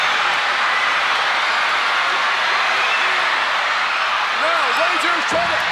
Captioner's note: crowd cheering continues